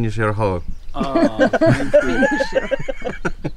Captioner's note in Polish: śmiech